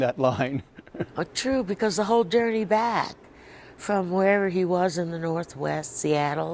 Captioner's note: laughter